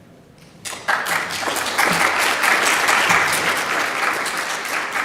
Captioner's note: audience applauds